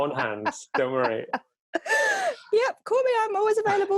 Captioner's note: laughs